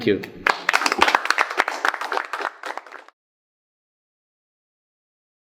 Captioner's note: audience applauds